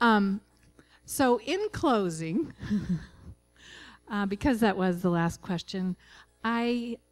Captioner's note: laughing